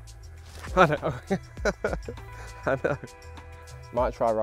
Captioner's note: laughs